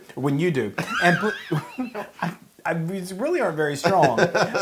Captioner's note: laugh